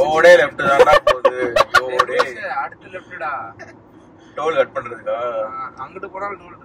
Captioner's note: laughs